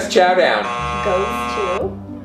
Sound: buzzer buzzing

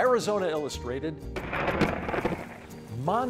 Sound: thunder cracking

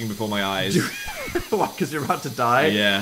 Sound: laughs

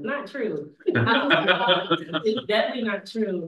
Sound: everyone laughs

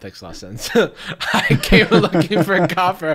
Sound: laughter

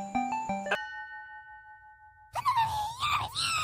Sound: dong

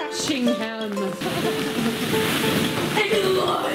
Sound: balls rustling

